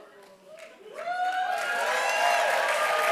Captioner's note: applause